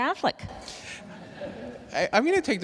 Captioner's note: attendees laughs